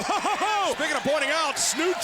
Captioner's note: laughs